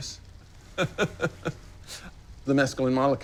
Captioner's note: laughs